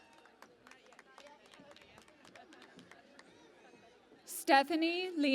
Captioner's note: cheering and Applause